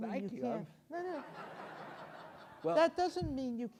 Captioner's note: audience laughs